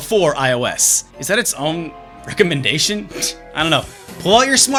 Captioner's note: scoff